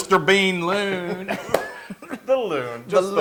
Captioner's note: laugh